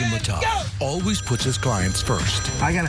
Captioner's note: phone ringing